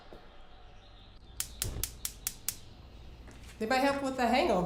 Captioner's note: stove clicking